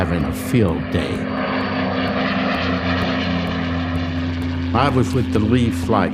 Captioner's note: plane engine roars